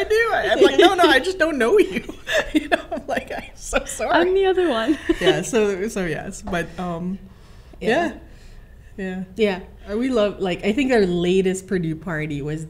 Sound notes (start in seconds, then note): 4.7 laughs